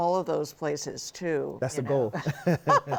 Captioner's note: laughing